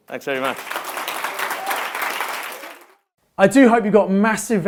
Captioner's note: crowd applauds